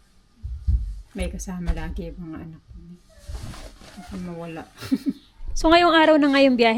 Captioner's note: laughter